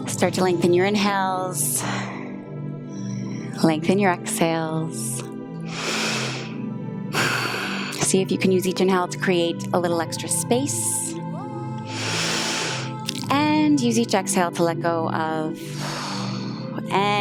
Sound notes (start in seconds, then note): 2.9 exhales; 5.6 inhales and exhales; 11.8 inhales; 16.2 exhales